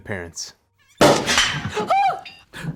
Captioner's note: cork popping